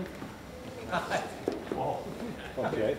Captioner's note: laughing